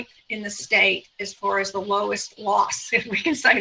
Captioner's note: chuckles